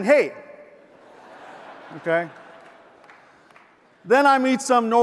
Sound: audience laughs

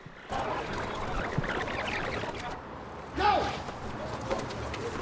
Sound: video rewind noise

